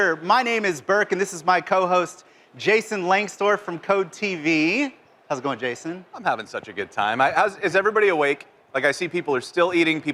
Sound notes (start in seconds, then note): none